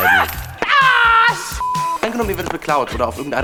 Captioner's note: sie schreit